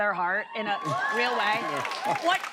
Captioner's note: cheers and applause